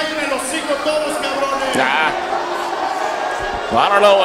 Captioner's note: crowd booing